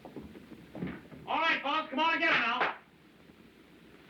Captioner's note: claps Hands